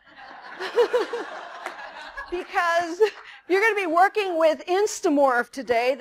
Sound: laughter

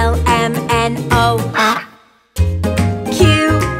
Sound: duck quacks

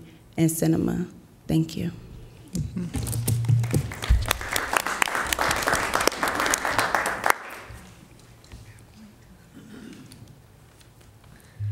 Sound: applause

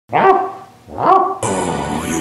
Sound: bark sounds

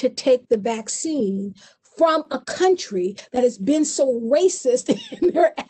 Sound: chuckles

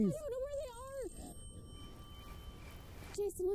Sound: phone ringing

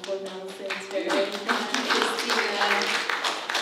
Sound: applause

